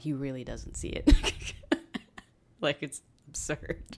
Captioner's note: laughs